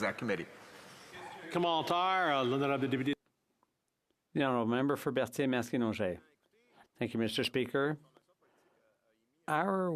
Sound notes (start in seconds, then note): 5.5 speaking French